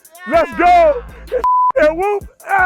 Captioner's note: beep